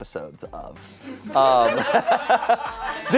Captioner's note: audience laughing